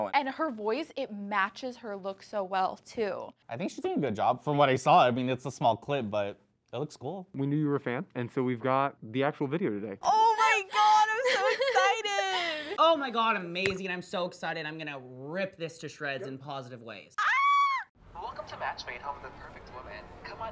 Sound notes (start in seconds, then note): 17.2 screams